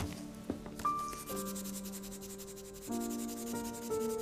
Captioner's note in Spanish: Ruido de lápiz sobre papel